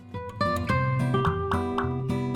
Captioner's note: pop